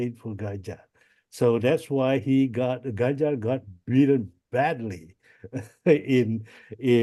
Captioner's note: laughs